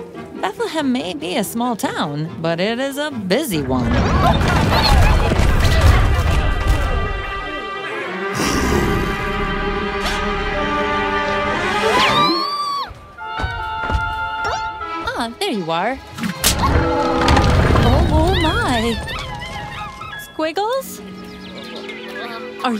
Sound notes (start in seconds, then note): 8.2 growls; 16.5 whip cracks